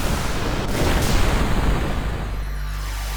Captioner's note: booming